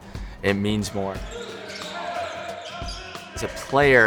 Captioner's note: players shouting